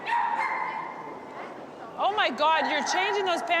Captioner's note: dog barking